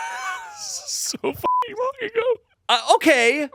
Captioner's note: laughing; beep